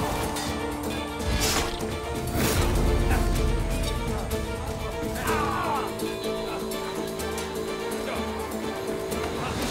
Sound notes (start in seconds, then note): 1.3 Kılıç sesleri; 6.6 Müzik - Hareketli